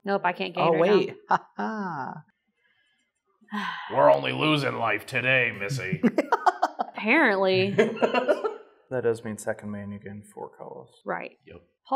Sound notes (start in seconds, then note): 7.5 chortling